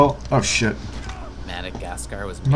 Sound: crunching noise

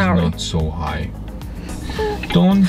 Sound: crying sound

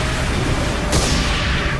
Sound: slam!

